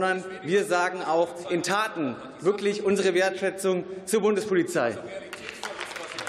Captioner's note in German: Beifall